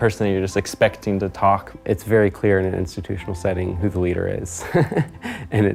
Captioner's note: laughter